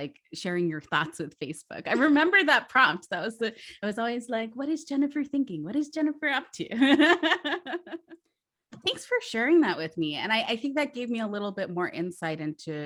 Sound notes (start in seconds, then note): 6.8 laughs